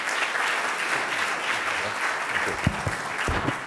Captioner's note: audience applause